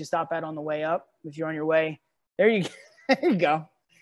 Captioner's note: laughs